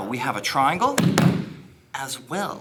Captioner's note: loud thumping